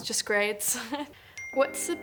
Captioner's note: ping